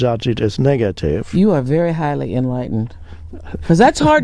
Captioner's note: chuckles